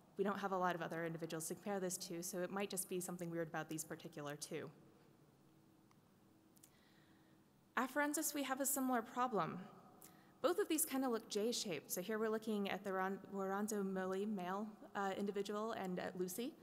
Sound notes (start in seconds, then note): none